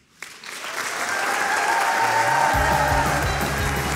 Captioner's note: audience cheering and applauding